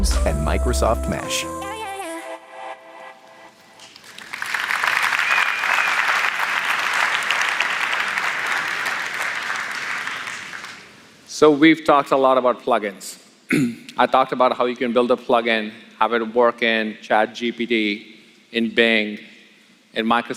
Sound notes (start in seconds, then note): 7.7 applause